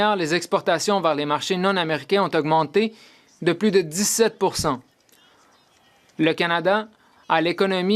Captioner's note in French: voix de l'interprète